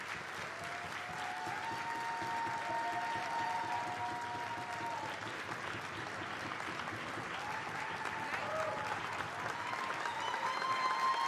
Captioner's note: applause